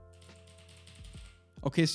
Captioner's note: keyboard clicks